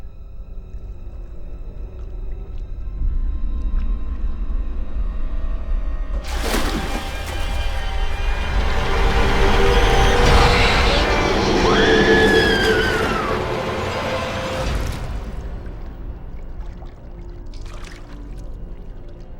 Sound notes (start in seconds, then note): 6.2 water splashing; 10.9 Mattie screams